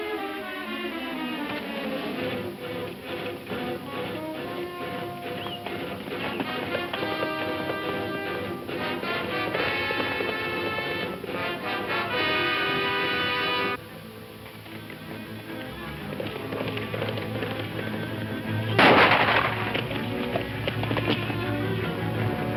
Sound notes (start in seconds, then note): 0.2 dramatic music playing; 4.3 hooves thumping; 18.8 loud gunshot; 19.5 hooves thumping